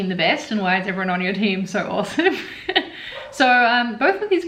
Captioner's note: laughs